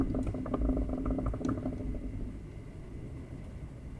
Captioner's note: bubbling fades out